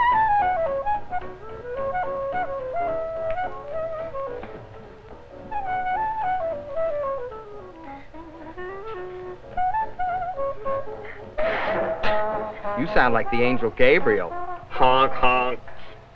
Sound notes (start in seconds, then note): 8.5 Susan blows her nose